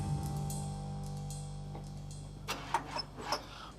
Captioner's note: engine cranking